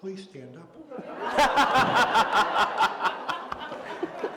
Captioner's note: laughter